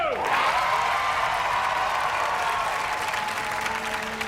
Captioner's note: audience cheers